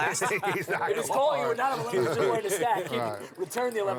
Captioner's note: group chatter